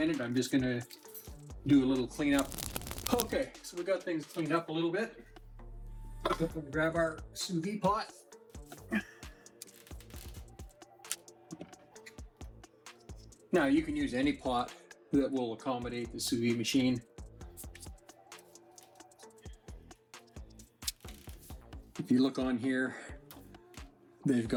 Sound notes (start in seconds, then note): 8.8 chuckles